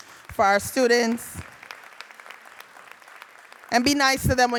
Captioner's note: audience applauding